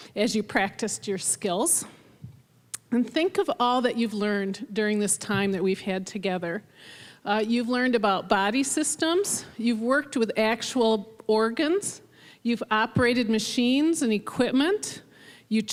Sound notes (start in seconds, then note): none